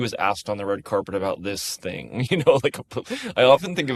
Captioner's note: chuckles